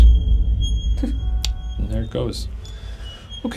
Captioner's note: chuckling